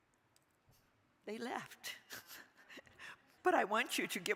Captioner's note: laughing